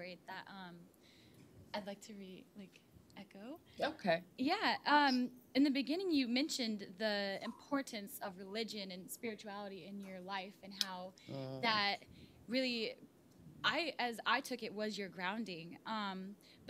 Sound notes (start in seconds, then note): none